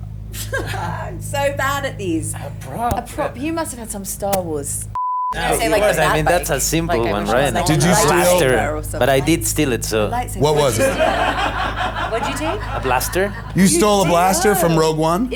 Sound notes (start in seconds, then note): 0.3 laughs; 4.9 beep; 10.4 audience laughs